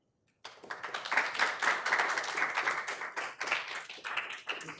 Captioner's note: attendees clapping